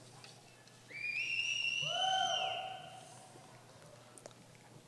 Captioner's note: cheering